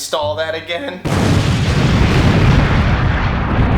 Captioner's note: explosion